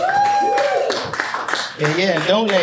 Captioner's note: audience applauding